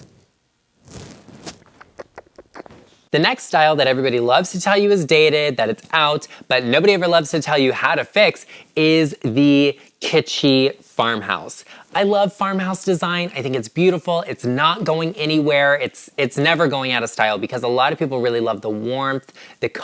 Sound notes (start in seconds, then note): 1.4 kissing